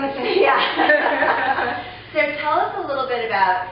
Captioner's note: laughing